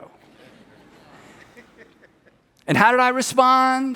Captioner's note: people laugh